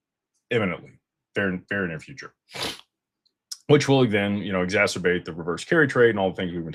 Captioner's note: snorts